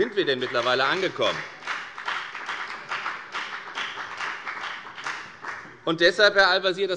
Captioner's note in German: Beifall bei der FDP